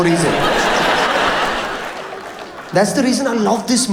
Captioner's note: audience laughs